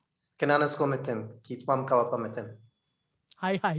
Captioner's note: speaking Indigenous language